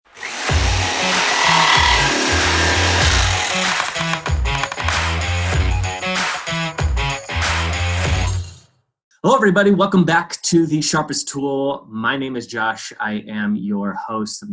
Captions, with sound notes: (upbeat music) (saw buzzing) - Hello everybody, welcome back to The Sharpest Tool. My name is Josh, I am your host